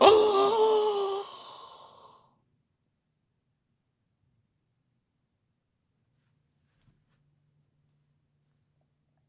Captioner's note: gaaaaaaasp